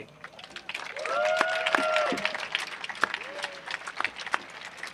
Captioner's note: audience applauding